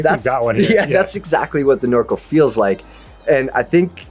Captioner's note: laughs